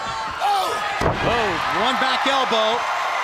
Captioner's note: crowd cheering